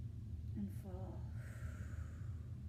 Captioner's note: inhale; exhale